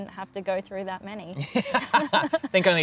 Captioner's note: laughing